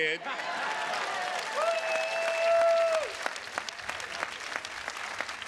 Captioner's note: attendees cheers and claps